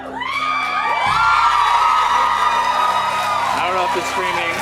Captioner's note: cheers and applause